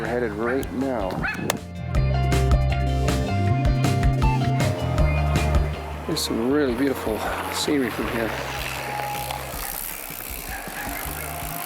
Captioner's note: sound of bike chains